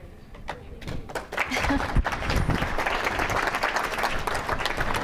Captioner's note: audience clapping